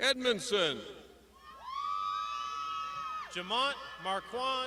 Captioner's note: crowd shouting